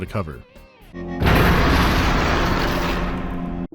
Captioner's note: crash